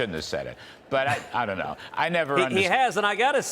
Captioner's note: laughter